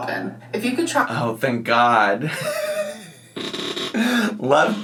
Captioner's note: laughs